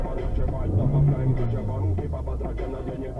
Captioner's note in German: Aufheulender Motor